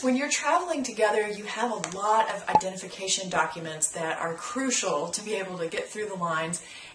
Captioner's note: pop